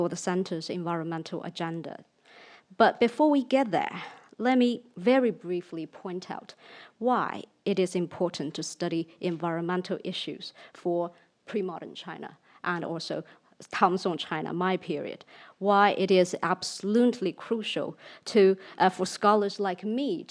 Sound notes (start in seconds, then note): 13.2 speaks in foreign language